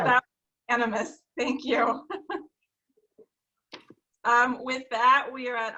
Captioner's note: laughing